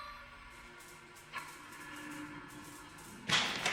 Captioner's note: lights buzzing; door opens